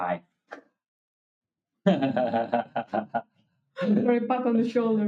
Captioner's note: laughing